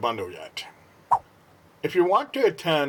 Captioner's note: swipe Sound